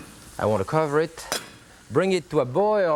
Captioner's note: lid clanks